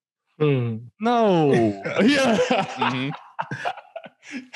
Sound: all laughing

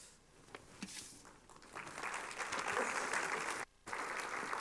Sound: applause

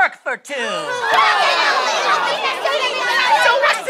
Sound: loud objections

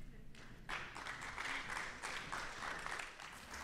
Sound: applause

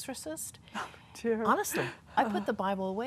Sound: laughs

